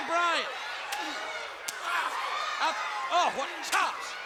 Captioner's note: blows thudding; wrestlers grunting